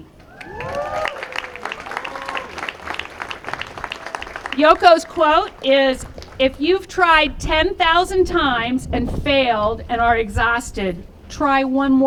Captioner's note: applause